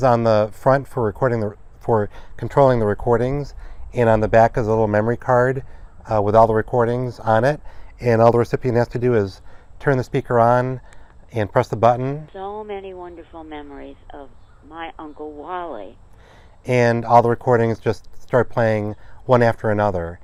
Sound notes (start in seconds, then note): 12.3 speaker playing